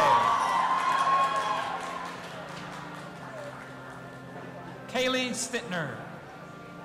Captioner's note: audience applauding and cheering